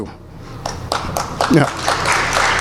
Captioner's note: applause